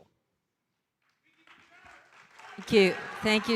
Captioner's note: audience applauding